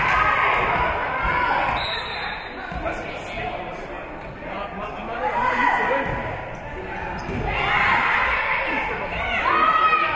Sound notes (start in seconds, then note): 1.7 whistle being blown; 5.5 spectators shouting encouragements